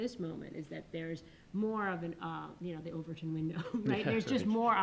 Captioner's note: chuckles